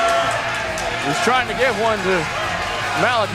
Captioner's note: crowd cheering